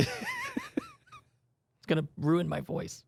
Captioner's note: laughs